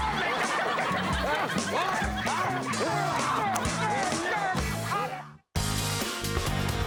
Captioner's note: audience laughs; upbeat music